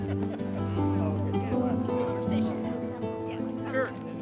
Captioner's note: overlapping chatter